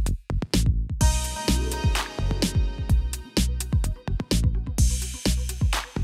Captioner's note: applause